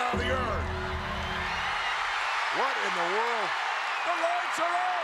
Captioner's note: applause